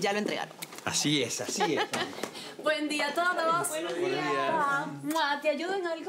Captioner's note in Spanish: Risas